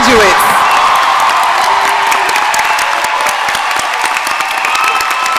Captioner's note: audience cheering and applauding